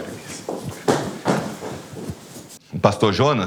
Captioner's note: excited footsteps